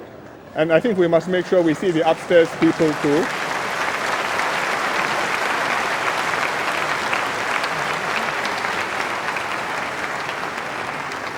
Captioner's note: applause